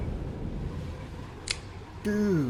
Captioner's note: cinematic boom; click